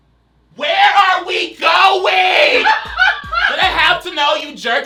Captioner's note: laughs